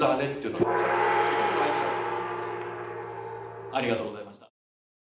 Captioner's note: gong